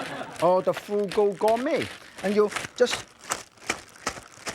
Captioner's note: shaking bag